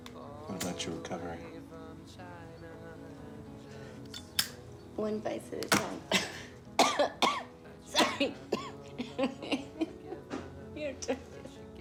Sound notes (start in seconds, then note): 0.0 lighter clicking; 4.0 lighter clicking; 6.0 coughs; 8.0 laughs